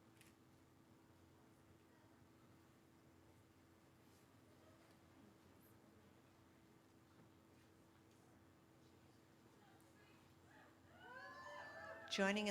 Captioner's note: cheering